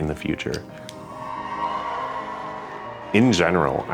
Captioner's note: guests cheering